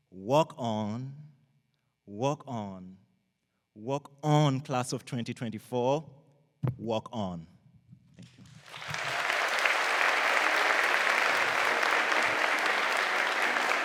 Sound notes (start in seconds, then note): 8.6 audience applauding